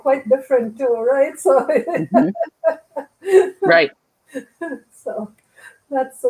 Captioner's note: laughter